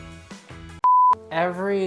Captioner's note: beep